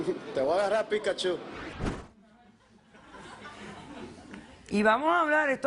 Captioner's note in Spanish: Risas